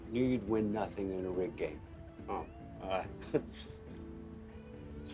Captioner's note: Max chuckling